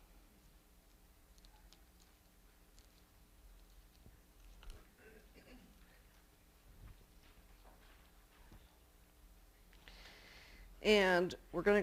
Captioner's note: pause